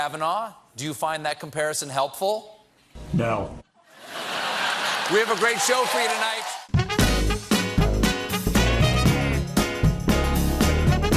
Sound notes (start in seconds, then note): 3.9 laughter